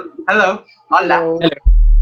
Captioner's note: in Spanish